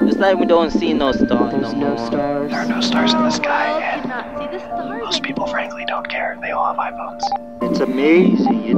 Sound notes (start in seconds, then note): 2.3 male whispers